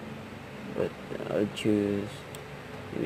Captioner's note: none